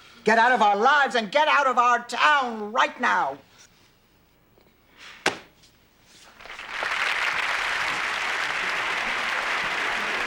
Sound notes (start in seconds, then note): 6.3 applause